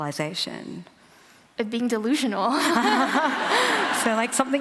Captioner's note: laughter